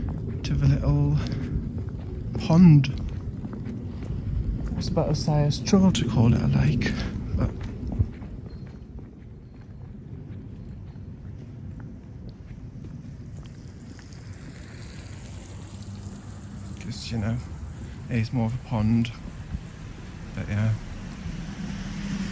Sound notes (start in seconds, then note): 13.7 bicycle passing